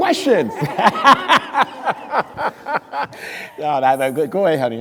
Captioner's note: crowd laughing